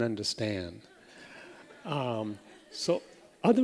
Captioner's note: laughter